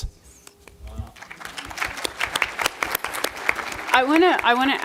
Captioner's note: applause